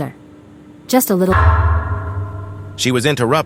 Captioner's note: bang